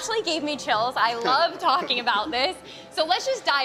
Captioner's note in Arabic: يضحك